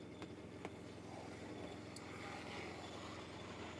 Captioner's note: soft humming of the device in the background